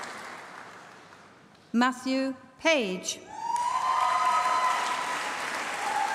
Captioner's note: applause